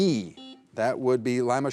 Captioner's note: buzzer buzzing